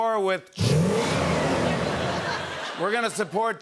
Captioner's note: engine revs, tires screech